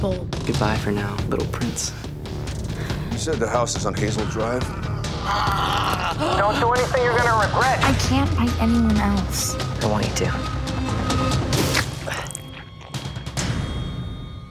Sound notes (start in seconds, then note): 4.1 screeching; 6.5 phone